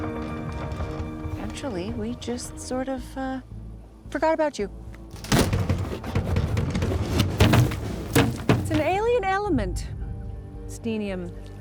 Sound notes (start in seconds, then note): 5.1 box rattles